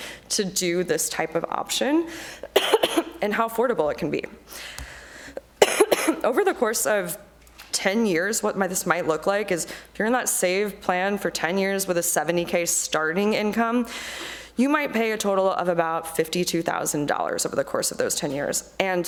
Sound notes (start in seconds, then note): 2.5 coughing; 5.5 coughs